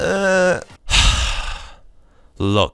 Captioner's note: sigh